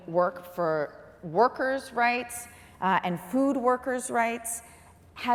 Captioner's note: none